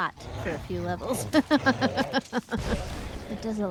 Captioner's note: laughs